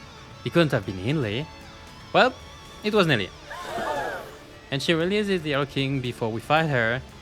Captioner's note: gasp